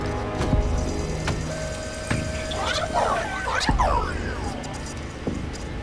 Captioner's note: robot whirring mechanically